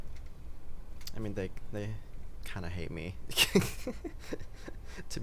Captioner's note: giggles